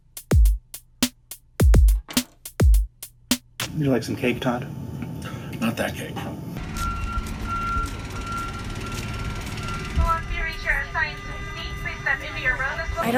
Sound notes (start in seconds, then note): 6.6 idle motor